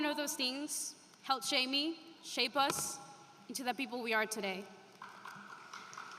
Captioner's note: speaking spanish